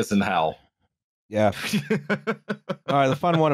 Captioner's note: chuckles